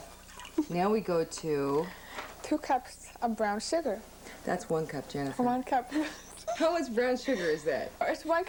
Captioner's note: giggling